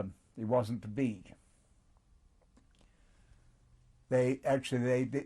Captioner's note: pauses for 3 seconds